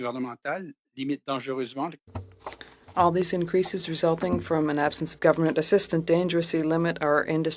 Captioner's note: speaking French